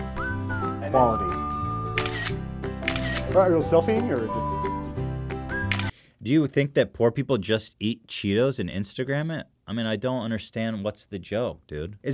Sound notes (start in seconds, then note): 2.8 another iPhone™ tourist camera noise sound effect; 2.8 iPhone™ tourist camera noise sound effect; 5.6 another annoying iPhone™ tourist camera noise sound effect